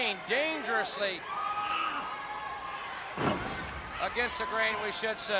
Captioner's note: crowd chatter